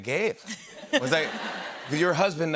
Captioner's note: laughter